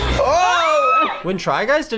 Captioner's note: screams